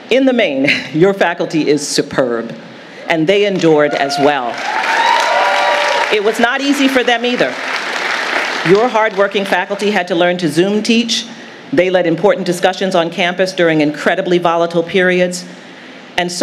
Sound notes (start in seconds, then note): 4.3 audience applauding